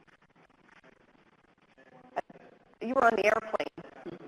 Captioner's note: audience murmurs